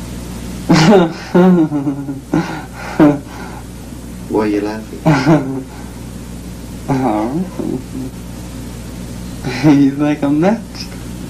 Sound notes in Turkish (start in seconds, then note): 0.7 gülüyor; 5.0 gülüyor